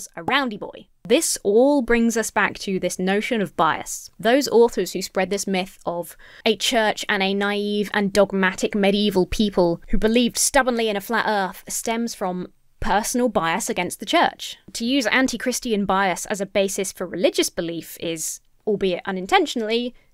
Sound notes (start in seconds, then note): none